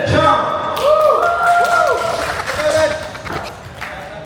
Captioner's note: cheers